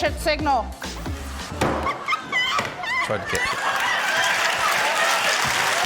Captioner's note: microphone thumps; laughter, cheering, applause